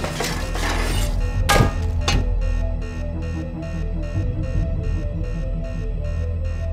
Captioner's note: suspenseful music continues; gun clanks; alarm blaring continues